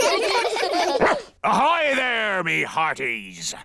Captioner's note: all giggle; barks